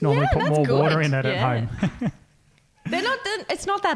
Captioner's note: laughing